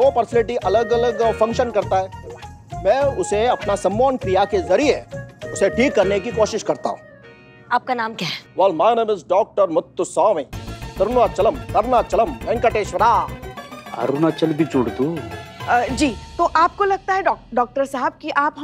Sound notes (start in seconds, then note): none